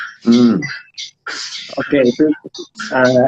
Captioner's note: non-english speech